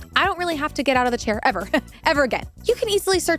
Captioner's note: laughs